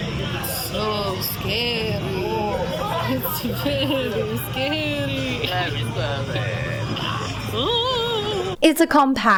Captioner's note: hoots